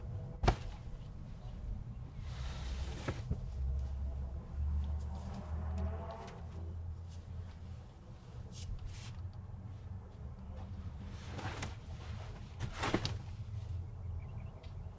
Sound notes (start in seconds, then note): 0.2 clothes rustling; 5.8 traffic humming faintly; 10.8 clothes rustling